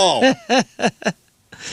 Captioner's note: laughing